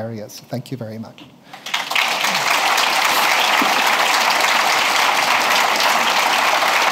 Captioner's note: applause